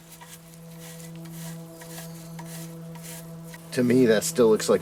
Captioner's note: brushes scratching